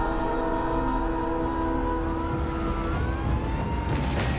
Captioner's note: sirens wailing